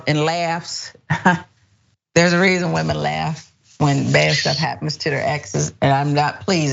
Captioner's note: laugh